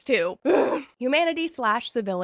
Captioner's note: groan